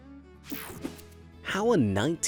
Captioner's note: image whooshing